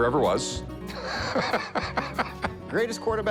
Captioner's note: laughing